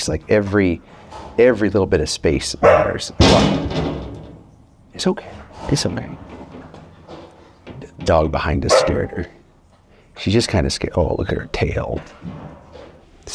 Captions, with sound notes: Like every little bit of space matters. (dog barking) (loud banging) It's okay. It's okay. The dog behind us scared her. She's just kind of scared. Oh, look at her tail.